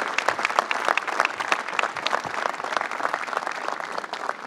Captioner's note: applause